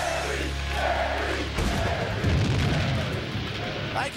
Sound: thunder crashes

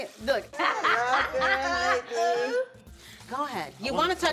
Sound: Tia laughing

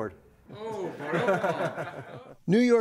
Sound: laughter

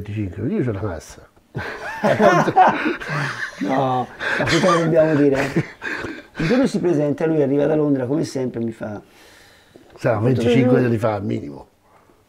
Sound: laughts

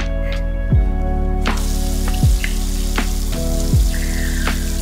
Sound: water trickling

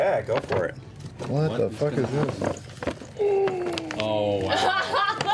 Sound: gasps

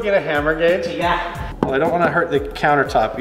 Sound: hammer taps metal

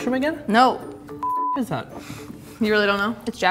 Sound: beep

